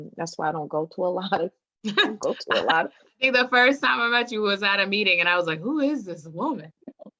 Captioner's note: laughing